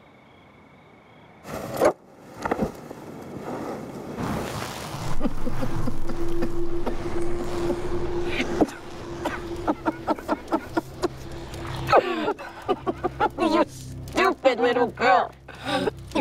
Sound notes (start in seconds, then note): 5.0 laughing